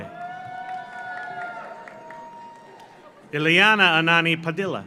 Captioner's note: audience cheers; audience applauds